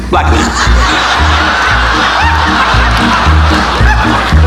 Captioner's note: audience laughing